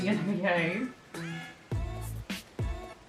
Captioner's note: low growling